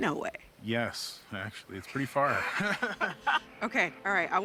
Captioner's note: both laugh